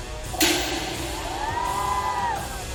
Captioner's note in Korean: 퍼억